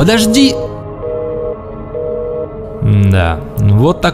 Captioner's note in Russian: гудки телефона